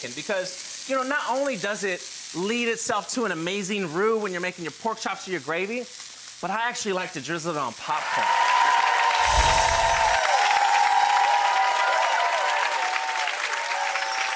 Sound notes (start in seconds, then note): 7.9 crowd cheers; 9.1 chimes